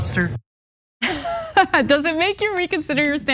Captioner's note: laugh